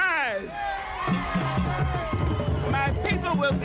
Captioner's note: crowd cheers